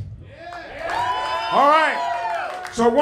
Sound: cheering

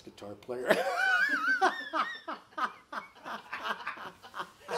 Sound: all laughing

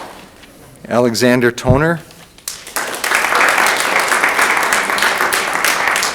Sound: audience applauding

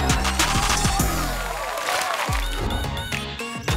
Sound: applauding

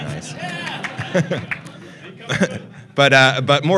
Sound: cheering

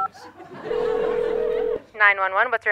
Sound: ringing; dialing beeps

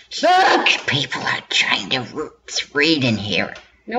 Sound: whispery voice

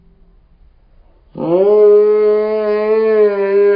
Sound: yelling

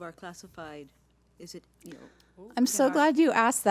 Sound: speaks faintly

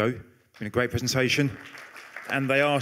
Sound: applause

